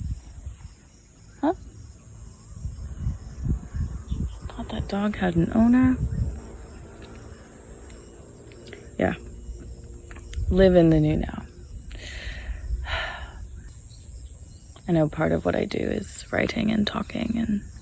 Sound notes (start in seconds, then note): 0.1 insects continue their drone; 11.9 inhales deeply, sighs; 13.7 birds chirp & sing; 13.7 insects drone